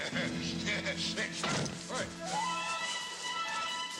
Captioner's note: dramatic music; body thudding